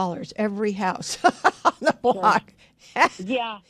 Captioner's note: laughs